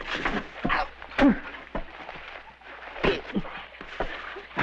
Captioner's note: grunting and thudding